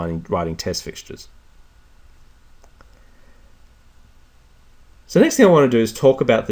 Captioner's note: pause